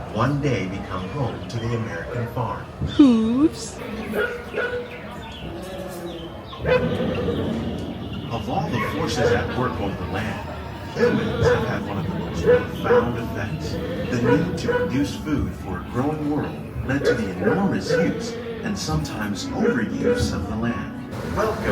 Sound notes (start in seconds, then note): 4.0 dog barks; 4.1 animals chitter